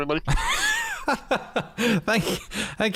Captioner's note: laughter